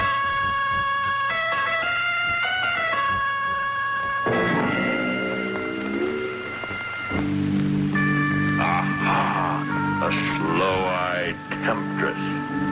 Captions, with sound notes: (Waldo thuds) Aha, a sloe-eyed temptress.